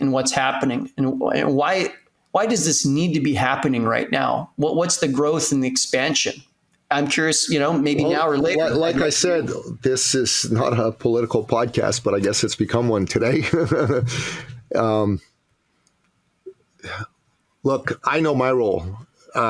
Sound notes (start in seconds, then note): 13.2 laughs